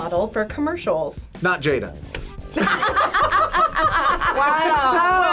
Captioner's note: group laughs